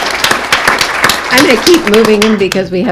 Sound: applause

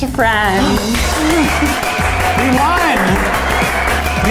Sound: clapping

